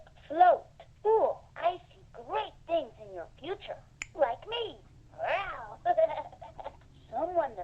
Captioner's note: fingers snap; laughs